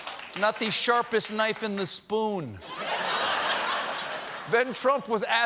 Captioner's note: laughter